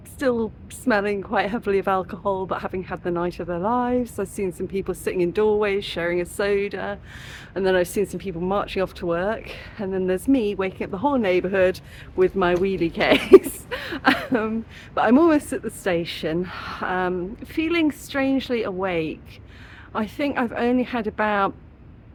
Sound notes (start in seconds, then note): 13.0 laughing